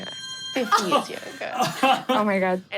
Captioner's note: laughs loudly